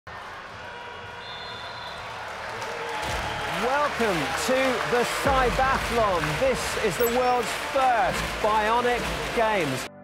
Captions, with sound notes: (crowd cheering) (whistle blowing) (cheering continues) - Welcome to the Cybathlon. This is the world's first bionic games.